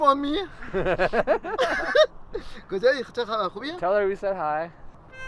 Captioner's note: they laugh